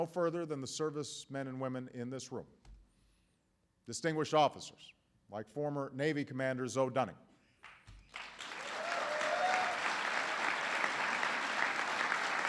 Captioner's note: applause